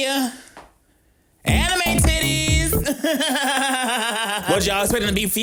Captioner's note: laughing